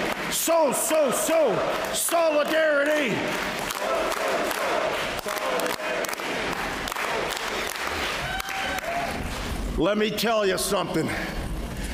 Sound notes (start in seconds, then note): 3.6 clapping